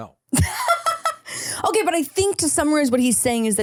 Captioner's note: laughs